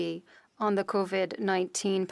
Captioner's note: speaking French